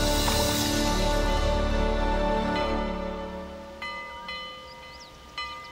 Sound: church bell ringing

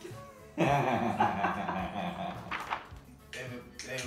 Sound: laughter

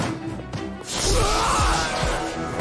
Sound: groaning

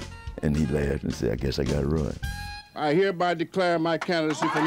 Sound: crowd

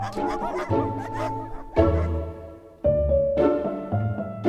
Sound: dogs barking

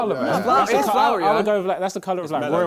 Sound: crowd mumbling

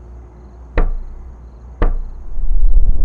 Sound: knocks; ominous music

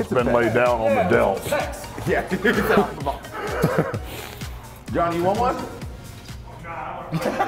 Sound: laugh; laugh

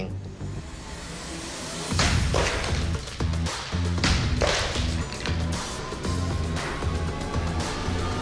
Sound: pots shattering

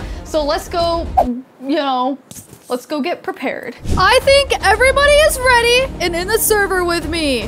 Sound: none

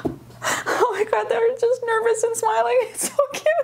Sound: laughing

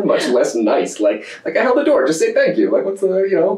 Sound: laughter

